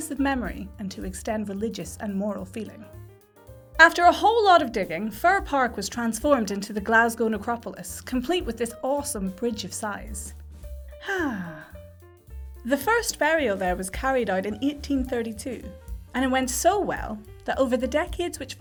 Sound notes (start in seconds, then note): 11.0 sigh theatrically